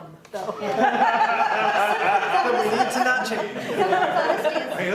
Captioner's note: laughter